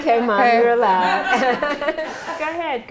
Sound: laughter

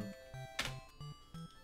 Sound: keyboard clicks

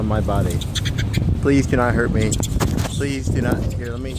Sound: evil monkeys chittering

